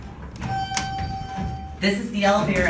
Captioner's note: elevator Chimes Once